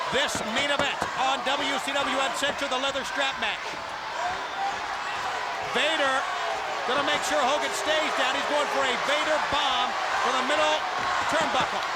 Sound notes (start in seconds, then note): 4.6 crowd cheering